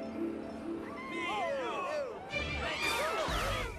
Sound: crowd chattering

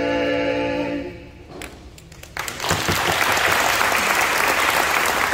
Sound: applause

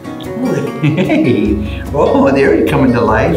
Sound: light-hearted music continues; laughs

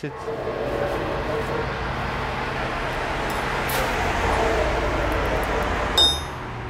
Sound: sound of background street traffic and dog barking; sound of hammer hitting hard surface

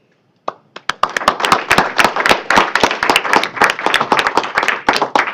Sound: applause

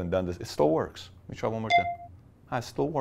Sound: ding

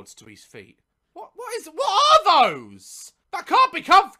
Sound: struggling to speak

